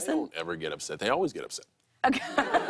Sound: laughter

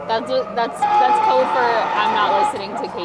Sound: dinosaur roaring

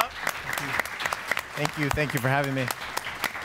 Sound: audience applauds

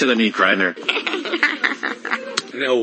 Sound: giggles cutely again

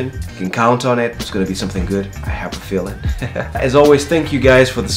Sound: laughs

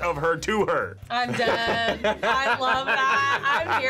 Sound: laughs

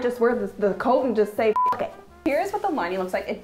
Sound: beeping

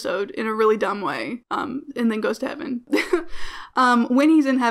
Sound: laughs

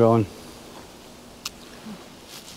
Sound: spitting

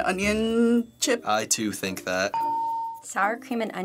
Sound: ding

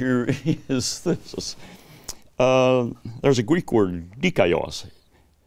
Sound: laughs

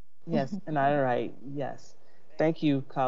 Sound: chuckles

